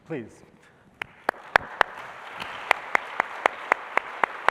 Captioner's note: applause